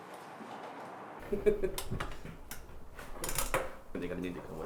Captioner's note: laughing